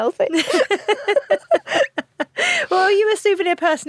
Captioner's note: both laugh